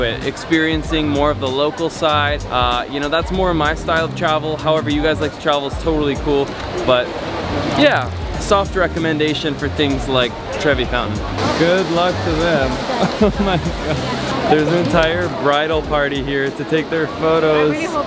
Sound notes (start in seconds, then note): 12.7 laughs